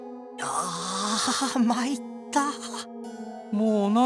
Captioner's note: pained groan